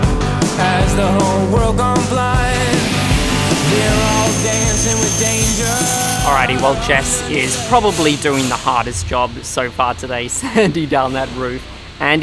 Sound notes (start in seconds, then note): 3.4 saw whirs